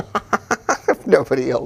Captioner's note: laughter